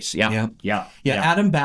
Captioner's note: laughs